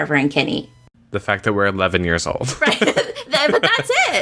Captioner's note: laughter